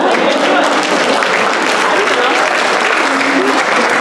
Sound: applause

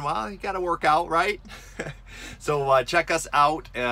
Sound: giggling

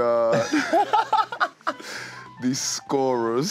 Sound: laughs

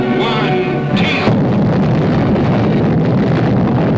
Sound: bomb blasting

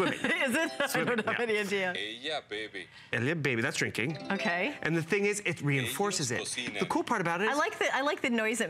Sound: foreign language

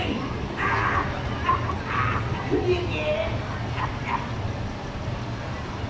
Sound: Mater laughing

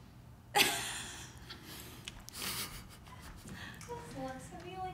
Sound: laughing

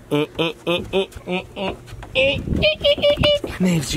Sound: making beeping sounds

